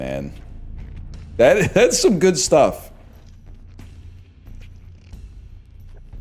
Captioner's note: chuckle